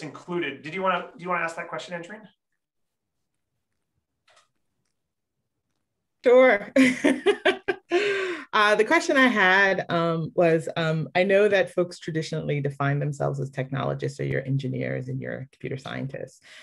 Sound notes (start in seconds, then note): 6.9 laughs